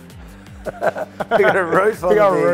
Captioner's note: laughs